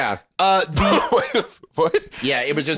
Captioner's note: laughing